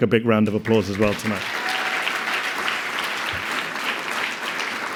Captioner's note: audience applauding